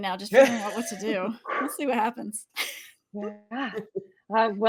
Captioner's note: laughs